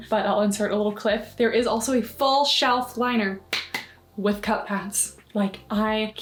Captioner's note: claps